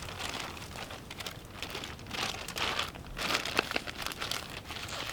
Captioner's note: rustling, fire